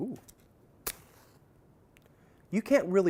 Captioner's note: strikes match